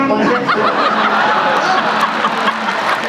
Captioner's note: laughter